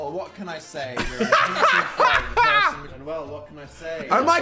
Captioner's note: hosts laugh